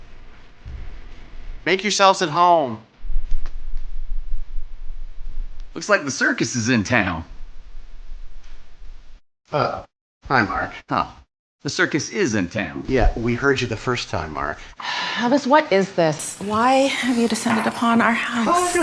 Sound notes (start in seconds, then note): 14.9 sighs